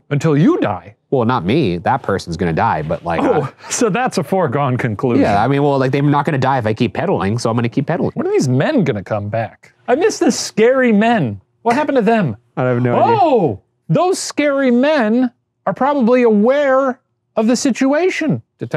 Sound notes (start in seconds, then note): 3.1 laughing